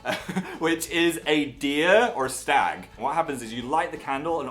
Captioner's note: laughs